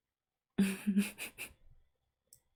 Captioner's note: laughs